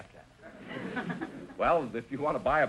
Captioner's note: audience chuckling